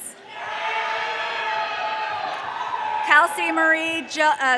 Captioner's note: audience cheering